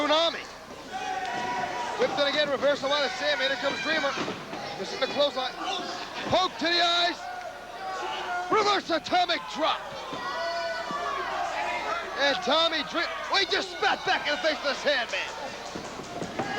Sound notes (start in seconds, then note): 0.2 crowd cheering; 7.7 crowd cheering